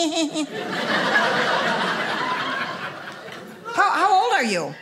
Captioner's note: audience laughing